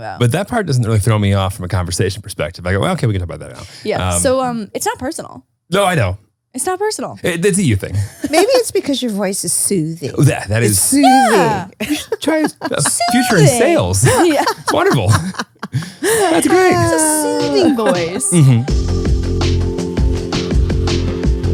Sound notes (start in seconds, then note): 15.0 laugh; 19.7 upbeat music